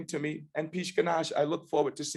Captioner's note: non-english speech